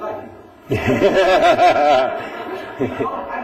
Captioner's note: laughter